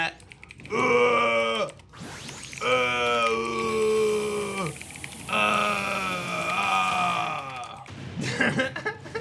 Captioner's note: growls; laughs